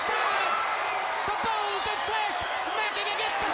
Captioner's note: crowd cheering